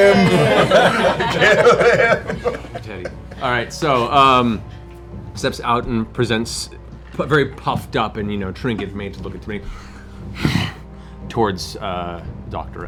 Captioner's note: growl